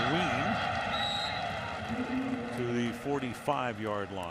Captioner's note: whistle blows